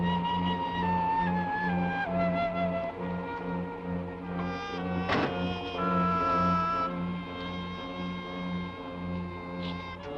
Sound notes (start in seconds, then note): 5.0 door thuds